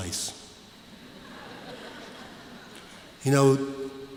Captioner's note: laughter